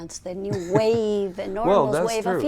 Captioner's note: Ríe